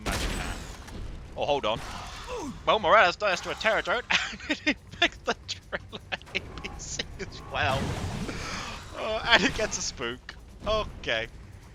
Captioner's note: chuckles